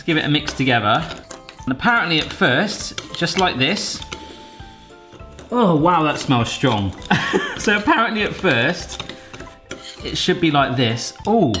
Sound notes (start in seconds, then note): 7.1 laughs